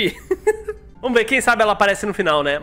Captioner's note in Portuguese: risos